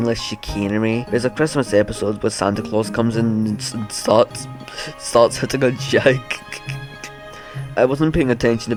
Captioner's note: giggle